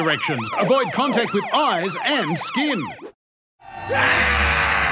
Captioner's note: siren wails; screams